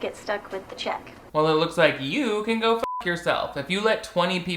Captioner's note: beep